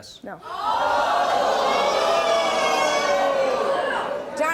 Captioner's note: audience shouts